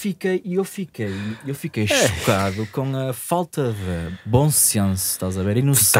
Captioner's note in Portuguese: suspiro